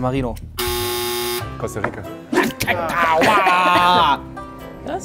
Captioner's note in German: Ärgernde Laute